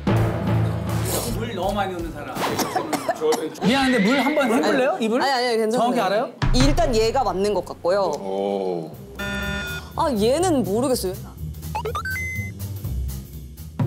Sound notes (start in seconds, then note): 2.4 cough